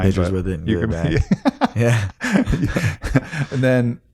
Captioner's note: laughs